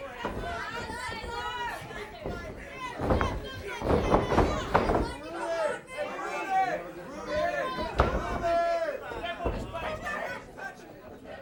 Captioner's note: crowd chatter